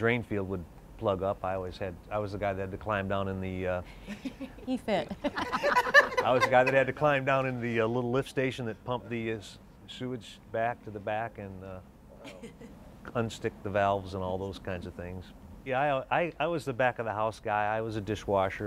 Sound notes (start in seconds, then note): 5.0 laughs